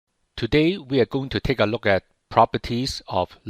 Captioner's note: voiceover